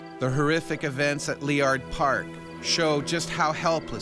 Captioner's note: voiceover